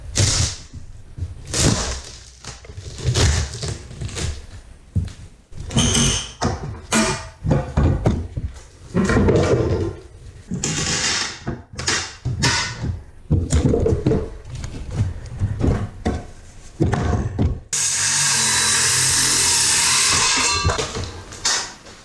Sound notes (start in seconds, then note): 0.1 very crunchy construction noises; 5.2 more crowbar noises; 17.7 saw noises; 21.8 creaky construction noises